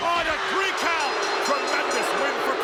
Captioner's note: bell rings